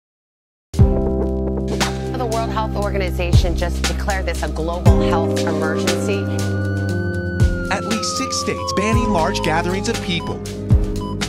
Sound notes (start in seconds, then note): 1.0 somber music; 6.5 siren wails; 10.9 medical device beeps